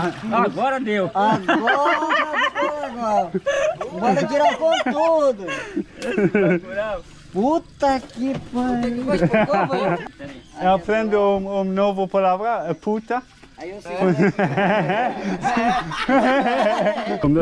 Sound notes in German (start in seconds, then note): 14.0 gelächter